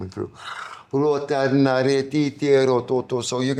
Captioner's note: non-english speech